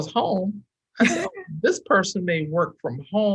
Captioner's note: chuckles